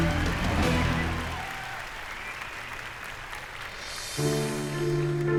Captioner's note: intense music; crowd cheering; piano music